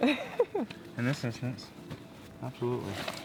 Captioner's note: laughing